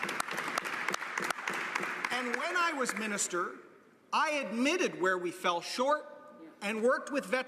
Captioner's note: applause